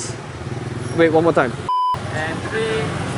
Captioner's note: blooper beep